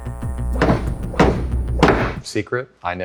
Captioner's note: hammer banging